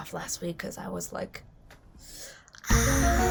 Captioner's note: exhales